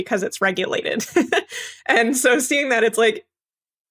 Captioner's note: laugh